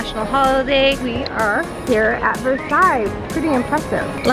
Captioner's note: speaks foreign language